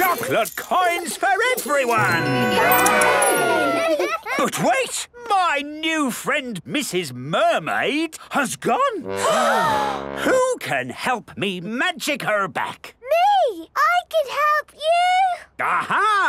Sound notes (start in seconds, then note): 9.1 all gasp